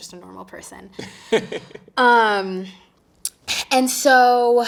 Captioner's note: interviewer chuckling